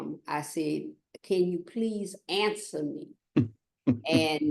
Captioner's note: laughter